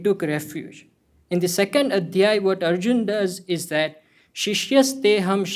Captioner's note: hindi